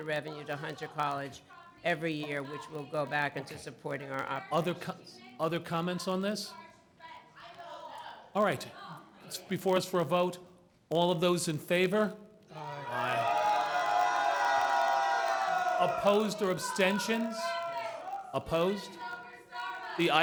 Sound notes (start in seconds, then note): 12.5 booing